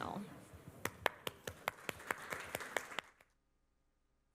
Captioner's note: applause